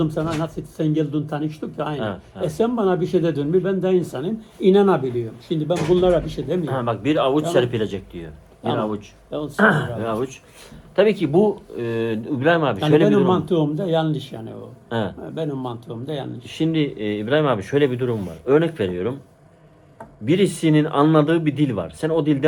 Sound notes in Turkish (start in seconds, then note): 10.6 boğazını temizler